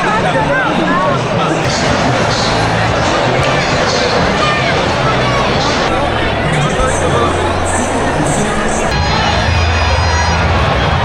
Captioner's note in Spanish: ovación